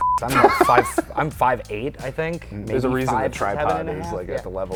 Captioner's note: laughs